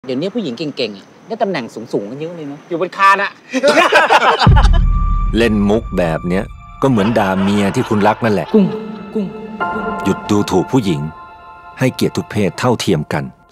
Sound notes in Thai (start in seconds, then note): 3.5 เสียงหัวเราะ; 4.6 เสียงดนตรีน่ากลัว